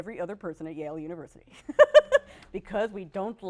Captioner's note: laughs